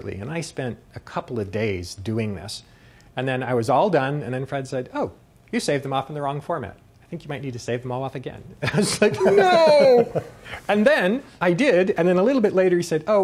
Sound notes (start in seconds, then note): 9.1 imitating crying